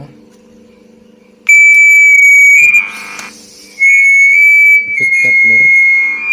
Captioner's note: feed back sound heared because the loudspeaker too close